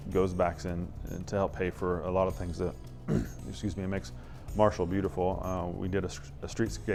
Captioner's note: clears throat